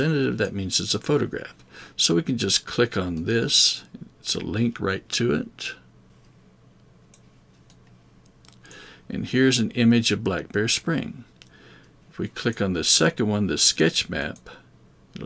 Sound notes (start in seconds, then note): 5.9 mouse clicking